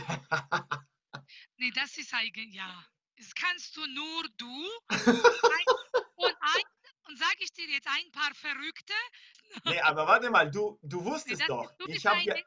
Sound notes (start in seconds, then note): 0.9 in German